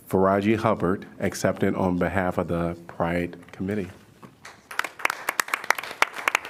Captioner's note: applause